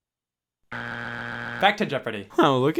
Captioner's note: buzzer beeps